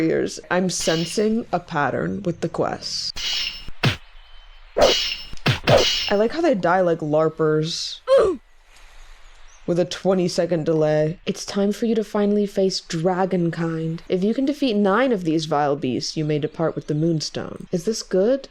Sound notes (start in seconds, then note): 7.9 Roblox oof